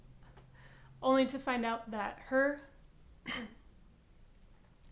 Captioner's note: clears throat